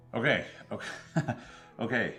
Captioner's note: chuckles